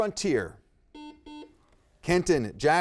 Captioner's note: buzzer beeping